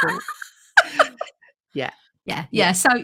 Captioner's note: laughs